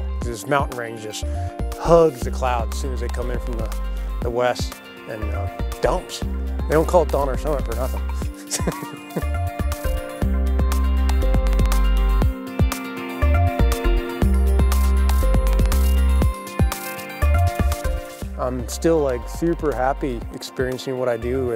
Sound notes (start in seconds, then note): 8.3 laughs